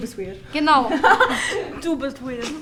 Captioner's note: laughter